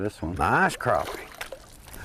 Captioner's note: splash